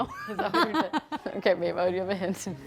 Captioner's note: laughing